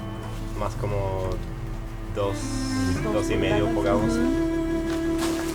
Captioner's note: speaking Spanish